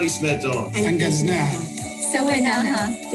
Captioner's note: speaking in foreign language